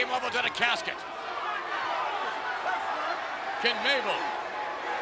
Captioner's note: crowd yelling